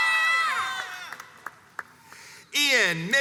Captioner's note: crowds cheers and applauds